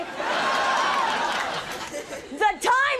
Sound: audience laughing

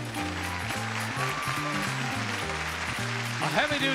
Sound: cheering

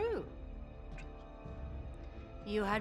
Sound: whisper

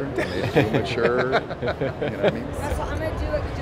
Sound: laughing

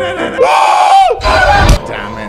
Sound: screams

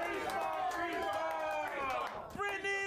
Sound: audience cheering

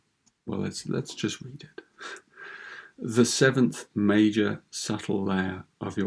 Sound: chuckles

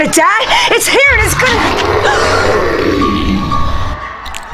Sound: monstrous roar

